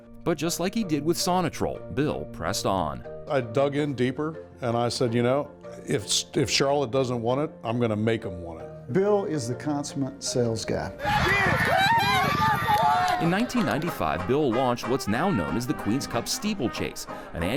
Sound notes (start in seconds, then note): 11.0 crowd cheering and clapping; 11.0 horse hoofs beating